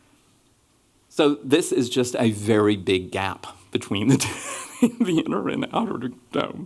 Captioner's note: chuckles